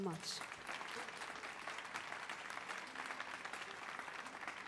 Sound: audience applauds

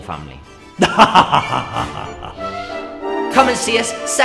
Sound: evil laughter

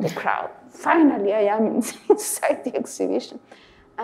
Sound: laughing

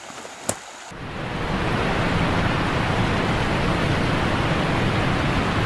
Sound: twigs crunching; waterfall rushing

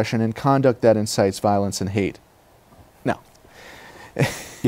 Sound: laughter

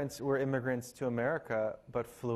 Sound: none

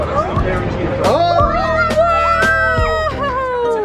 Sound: cheering

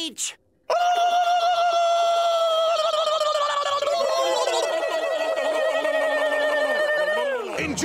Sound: screeching

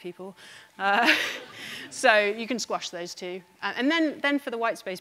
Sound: laughs

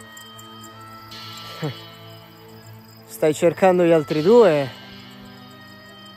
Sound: snorts amused

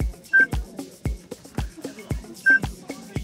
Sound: timer beeping; timer beeping

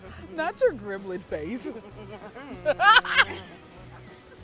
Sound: laughs

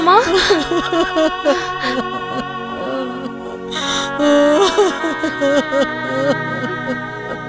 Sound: crying

